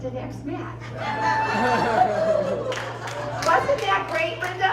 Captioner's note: laughter and applause